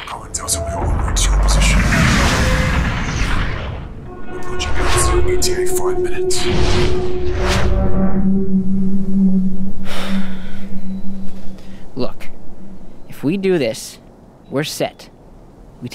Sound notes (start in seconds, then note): 1.9 jets roaring; 6.4 jets roaring; 9.8 Jaymee sighing